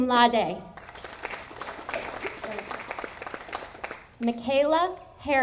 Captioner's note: audience applauding